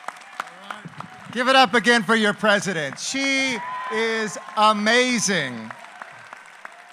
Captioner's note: applause